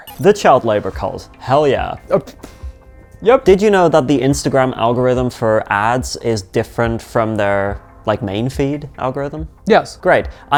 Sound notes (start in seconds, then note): 2.5 laughs